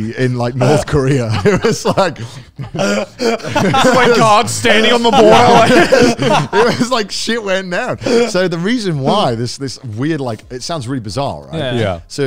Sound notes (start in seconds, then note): 0.6 all laughing